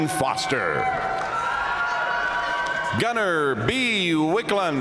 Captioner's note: audience cheering and applauding